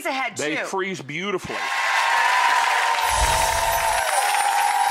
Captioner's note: applauding